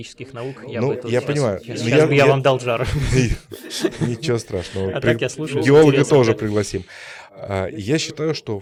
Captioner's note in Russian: смех